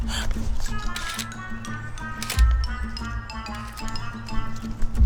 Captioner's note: gasps; camera clicking